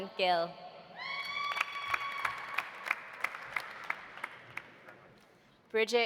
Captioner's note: audience cheering; audience applauding